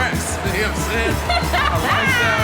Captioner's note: laughs